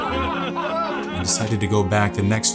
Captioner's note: laughter